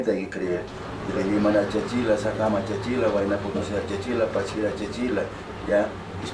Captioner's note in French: il parle en aymara